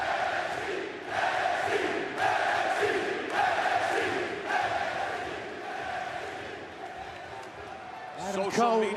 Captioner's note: crowd cheering